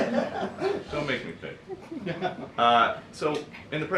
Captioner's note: laughter